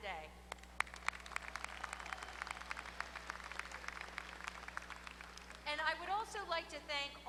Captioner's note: applause